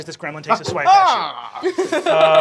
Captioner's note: laughs